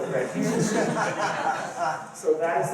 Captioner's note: laughter